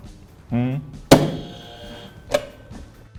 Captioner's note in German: buzzer